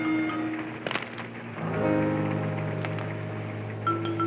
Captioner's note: stones thumping